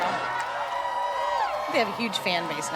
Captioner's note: crowd cheering